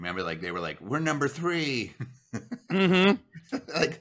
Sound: chuckling

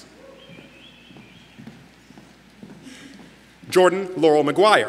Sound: audience member whistles

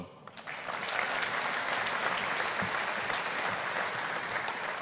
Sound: audience applauding

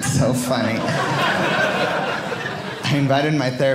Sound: audience laughing

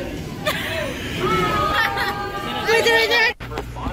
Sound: Destiny wheezes

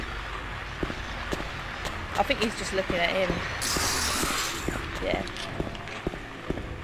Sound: spraying noise

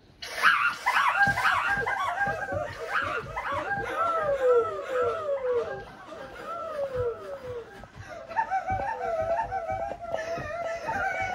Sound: distorted laughter

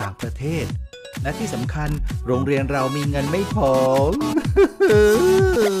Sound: sob

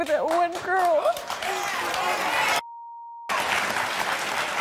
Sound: audience claps

